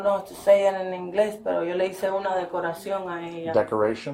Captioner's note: speaking in Spanish